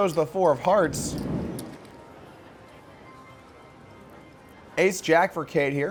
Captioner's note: soft wooshing